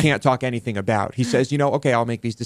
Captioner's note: laughs